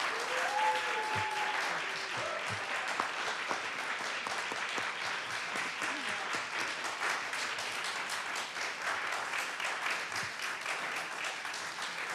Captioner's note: cheers and applause